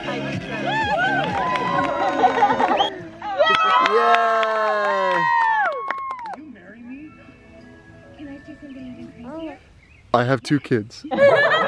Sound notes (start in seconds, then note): 0.5 audience cheers; 11.1 audience laughs